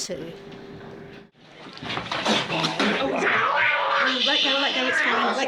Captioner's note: growling and spitting